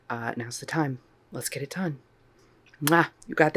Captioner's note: mwah